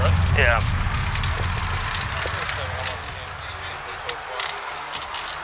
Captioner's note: gurney whirring